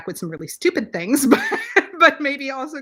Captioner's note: laughs